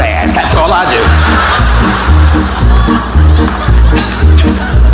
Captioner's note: audience laughing